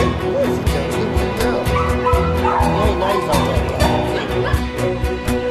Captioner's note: dog whimpering, barking